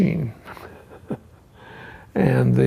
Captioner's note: chuckles